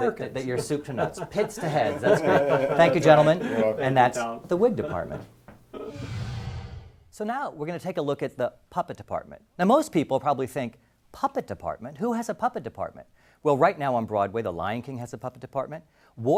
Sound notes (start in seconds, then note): 2.9 laugh